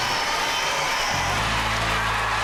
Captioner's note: audience cheering